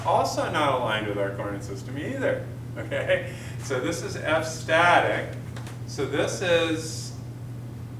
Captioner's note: chuckles